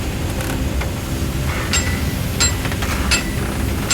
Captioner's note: hammering